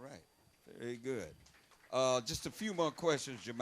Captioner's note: audience applauding